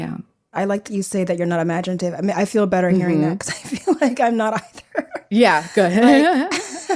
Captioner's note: she laughs